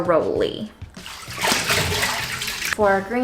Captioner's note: plopping sound